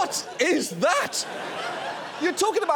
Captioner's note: audience laughs